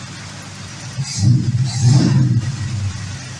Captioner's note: engine revs